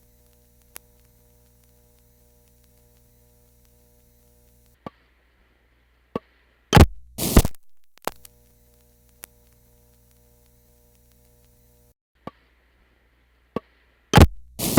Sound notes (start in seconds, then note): 0.0 faint buzzing comes back; 6.8 thunk; 7.2 ksssh, thhip, pop; 7.9 faint buzzing comes back; 14.1 thunk; 14.5 ksssh, thhip, pop